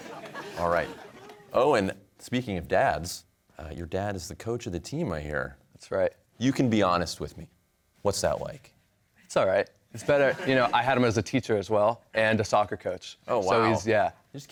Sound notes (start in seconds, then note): 10.0 laughter